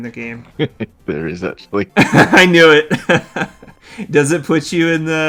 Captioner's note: laughing